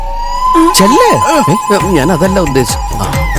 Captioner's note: sarcasm